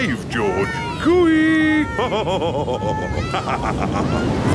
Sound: laughs

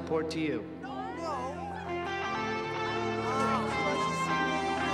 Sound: crowd objecting

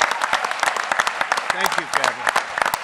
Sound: applause

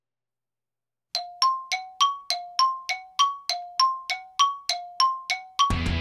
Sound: beeps

